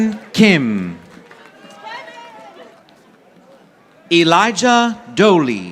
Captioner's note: audience applauding